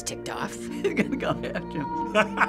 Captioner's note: laughing